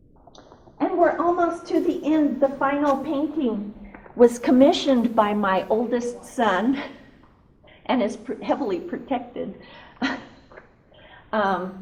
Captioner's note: laughs